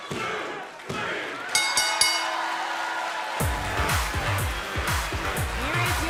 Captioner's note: bell ringing